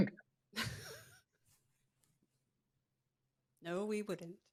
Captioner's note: chuckles